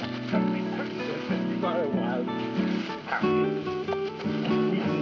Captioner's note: Billy mumbling and grunting